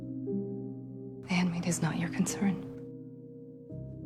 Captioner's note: voiceover